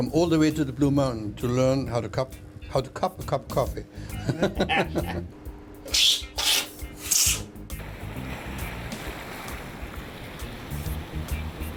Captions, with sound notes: come all the way to the Blue Mountains to learn how to cup a cup of coffee. [laughs] [grinding sound]